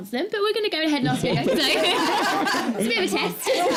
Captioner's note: laughter